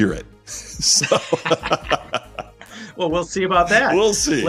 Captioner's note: laughing